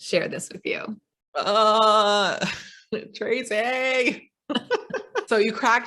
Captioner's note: laughs